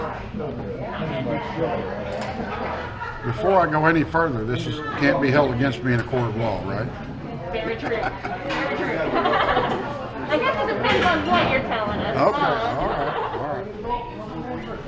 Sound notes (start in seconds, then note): 8.9 they laugh